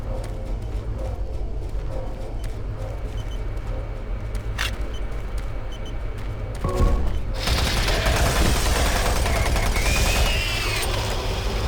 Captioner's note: gunshots